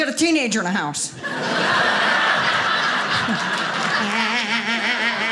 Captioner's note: audience laughing